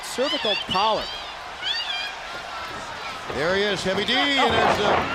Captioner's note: crowd cheering